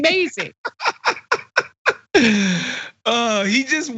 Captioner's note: laugh